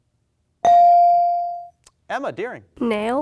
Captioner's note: bell dings